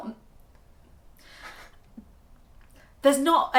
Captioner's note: laughing